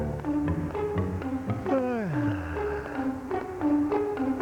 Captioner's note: yawning